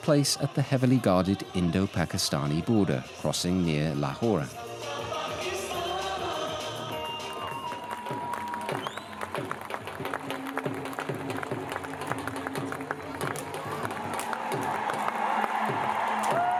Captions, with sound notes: takes place at the heavily-guarded Indo-Pakistani border, crossing near Lahore. [crowd applauding]